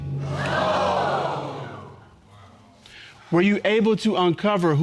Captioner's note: audience gasps